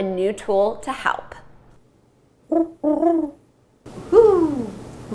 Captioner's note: whoo owl sound effect